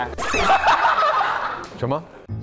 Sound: haHaHaHa

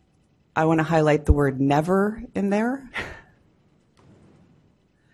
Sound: laughs

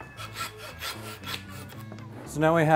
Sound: saw cutting through bone

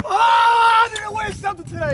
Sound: yelling

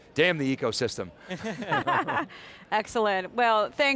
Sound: all laughing

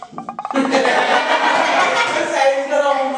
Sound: laughing

